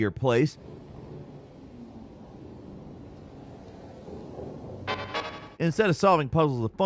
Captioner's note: gentle instrumental music; wind whooshing